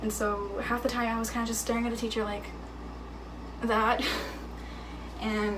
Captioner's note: chuckling